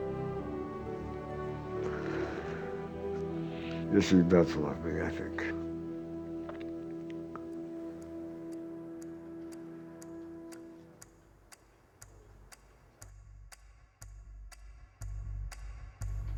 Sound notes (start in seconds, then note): 9.3 clock ticking; 11.3 dramatic music